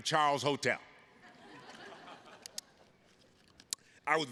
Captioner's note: attendees laughing